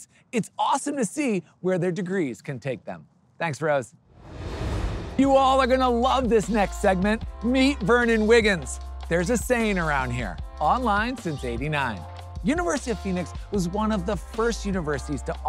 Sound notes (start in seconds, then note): 4.1 transition whooshing; 4.2 upbeat music